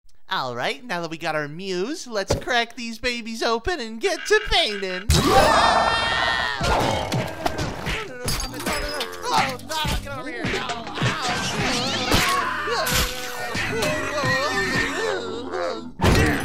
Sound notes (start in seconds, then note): 5.1 sounds of destruction as Oodle fights against the paint monster; 5.1 paint monster roars, Oodle screams